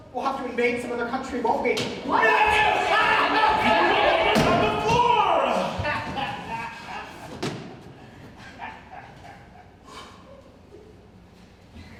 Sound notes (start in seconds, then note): 2.5 laughing uproariously; 5.8 Morgan continues laughing